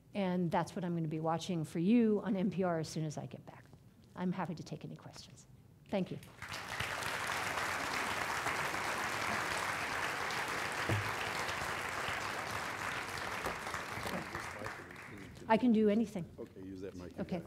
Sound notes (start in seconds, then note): 6.2 applause